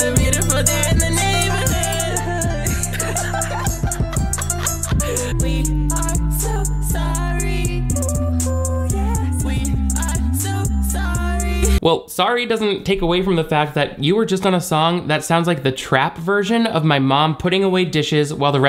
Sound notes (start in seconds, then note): 3.3 group laughs